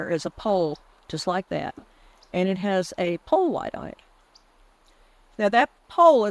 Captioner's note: none